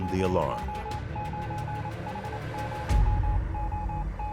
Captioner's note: beeping